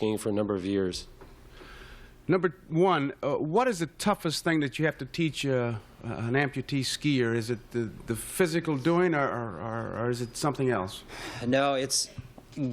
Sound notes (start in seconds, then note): none